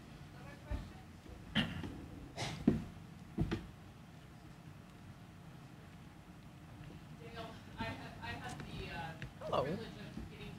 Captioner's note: cough